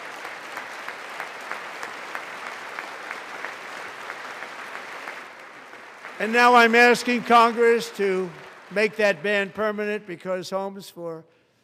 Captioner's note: applause